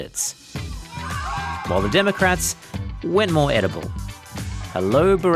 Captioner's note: cheering